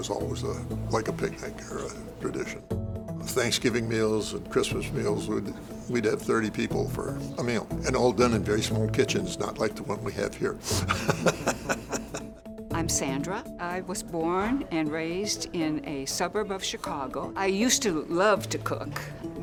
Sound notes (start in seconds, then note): 10.6 laughs